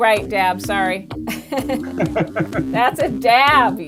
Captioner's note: laughing